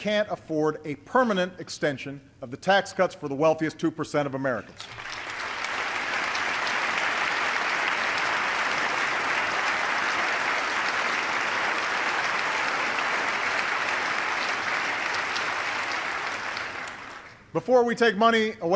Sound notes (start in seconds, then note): 8.9 applause